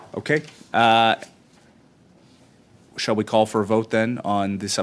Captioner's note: silence